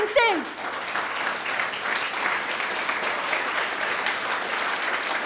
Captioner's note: audience applauding